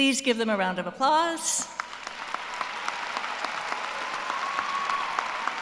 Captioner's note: applause